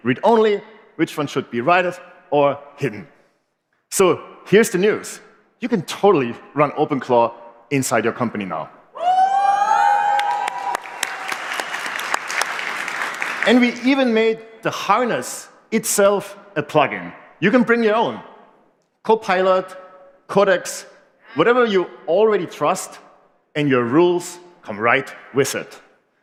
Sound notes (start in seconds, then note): 13.0 cheering